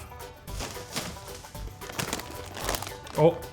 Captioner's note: bags rustling